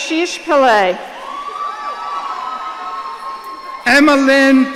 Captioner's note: audience cheering